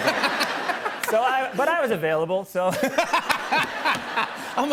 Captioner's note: laughter; laughter